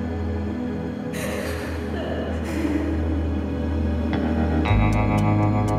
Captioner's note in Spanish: Sollozos